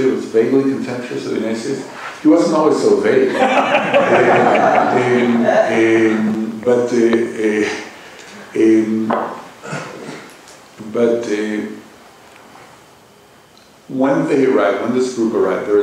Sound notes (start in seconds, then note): 3.2 laughter